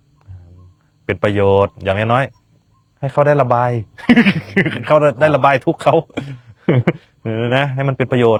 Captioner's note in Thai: เสียงหัวเราะ